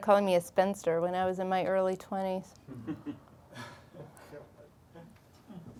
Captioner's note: chuckling